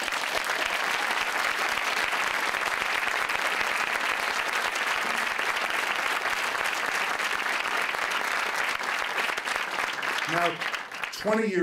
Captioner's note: applause